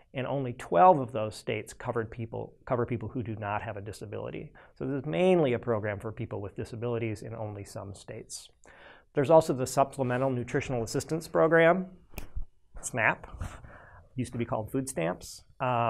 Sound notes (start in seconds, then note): 12.1 snaps fingers